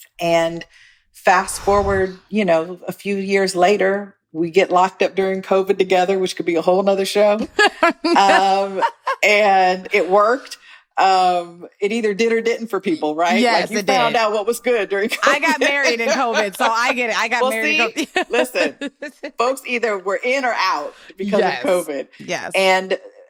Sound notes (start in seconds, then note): 7.4 laughing